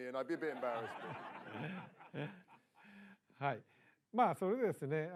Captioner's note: laughter